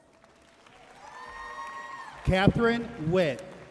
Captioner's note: audience cheering and applauding